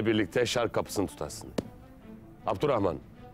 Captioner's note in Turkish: El vurma sesi